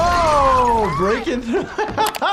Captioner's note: people screaming; wall crashing; laughs